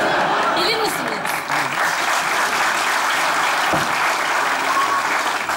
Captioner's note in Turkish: Alkış sesleri